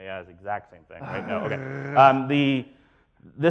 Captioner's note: growls